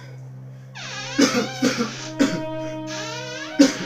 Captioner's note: cough